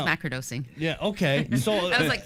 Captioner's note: chuckles